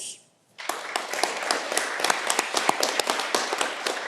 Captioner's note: audience clapping